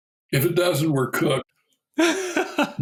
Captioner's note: laughter